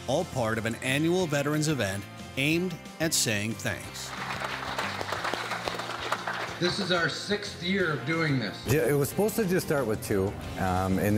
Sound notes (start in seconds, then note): 4.0 crowd applauds